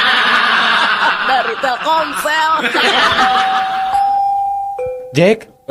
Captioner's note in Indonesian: tertawa